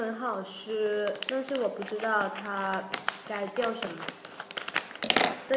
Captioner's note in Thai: เป็นภาษาจีน